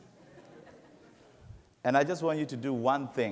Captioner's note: laughing